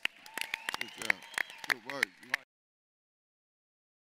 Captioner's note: applauding